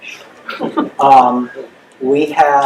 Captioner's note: laughing